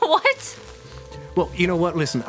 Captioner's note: laughs